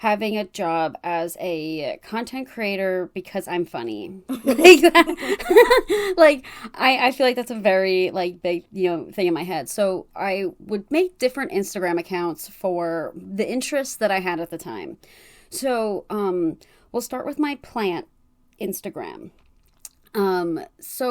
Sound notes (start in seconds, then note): 4.3 laughs